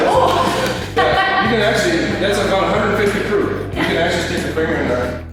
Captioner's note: laughs